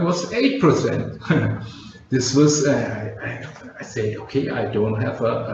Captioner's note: chuckles